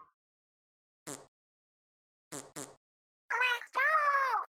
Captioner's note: awkward silence and eye twitches